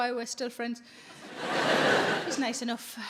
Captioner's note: audience laughing